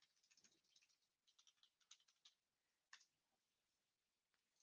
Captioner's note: keyboard clicking